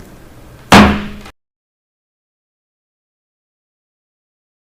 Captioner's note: gavel bangs